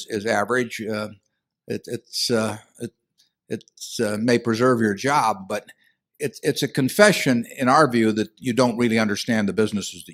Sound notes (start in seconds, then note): none